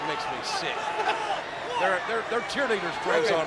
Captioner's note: laugh